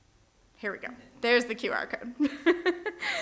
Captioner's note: chuckling